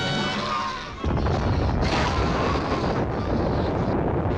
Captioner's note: volcano booming